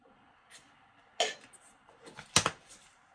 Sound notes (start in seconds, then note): 1.0 kettle boiling